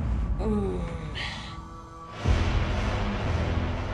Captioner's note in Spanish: Quejido